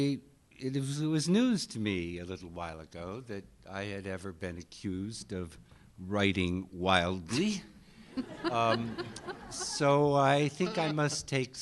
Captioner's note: laughter